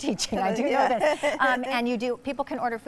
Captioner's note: laughs